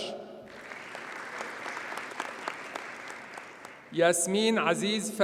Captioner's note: audience applauds